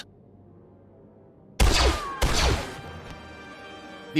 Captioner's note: two blaster rifle shots